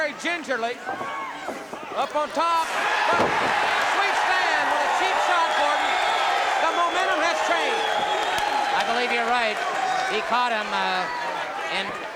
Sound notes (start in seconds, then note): 2.6 crowd cheering